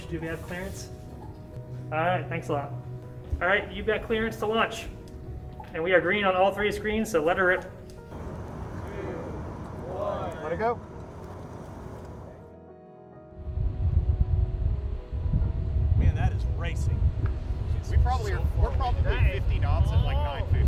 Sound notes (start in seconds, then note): 12.5 gentle instrumental music; 13.4 wind fluttering